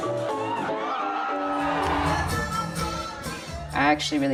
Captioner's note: audience cheering